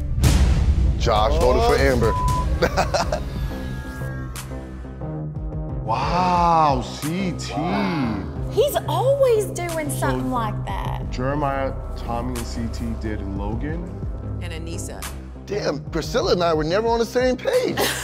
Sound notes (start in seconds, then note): 2.5 laughs